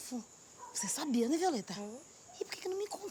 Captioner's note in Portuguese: sussurro